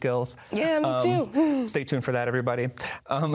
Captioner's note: laughs